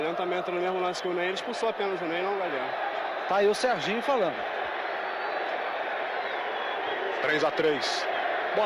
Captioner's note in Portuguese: aplausos